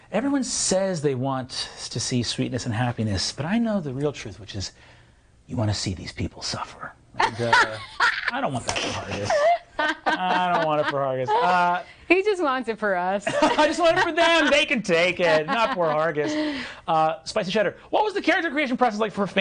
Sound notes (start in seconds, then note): 7.2 laughing